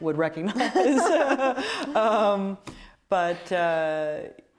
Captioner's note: both laughing